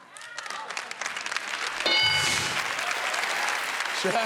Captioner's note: applause